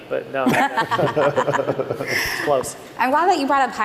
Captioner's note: laughter